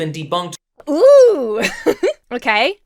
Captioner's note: laughs